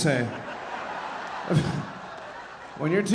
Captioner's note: audience laughing